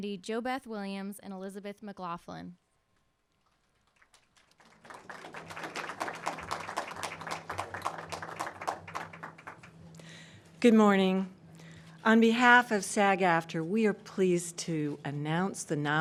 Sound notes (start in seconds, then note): 3.8 audience applauding